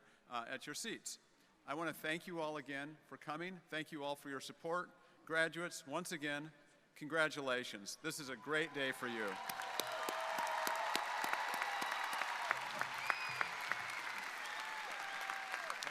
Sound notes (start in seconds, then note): 8.4 crowd cheering; 8.6 crowd applauding